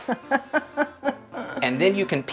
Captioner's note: laughs